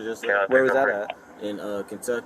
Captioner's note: radio chatter